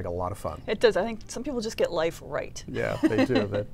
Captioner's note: laughs